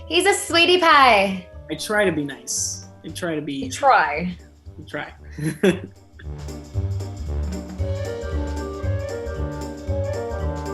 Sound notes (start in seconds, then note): 5.4 laughs; 6.8 playful, cheery music